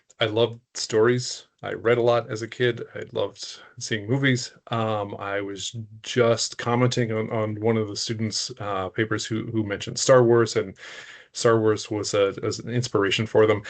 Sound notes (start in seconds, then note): none